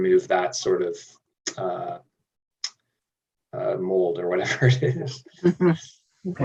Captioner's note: laughing